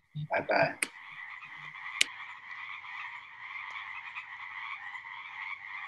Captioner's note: frog Chorus